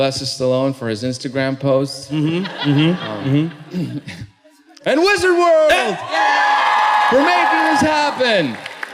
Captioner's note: cheering